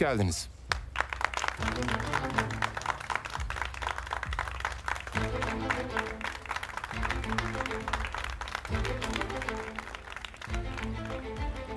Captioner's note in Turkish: Alkış sesi